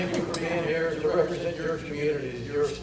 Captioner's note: audience laughter